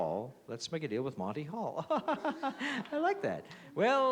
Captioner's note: laughs